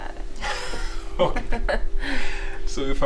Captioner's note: both laughing